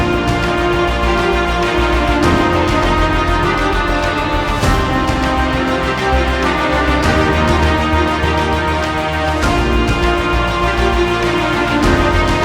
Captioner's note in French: applaudissements